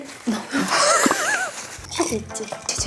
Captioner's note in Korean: 콧물